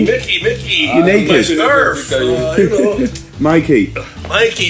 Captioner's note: chuckles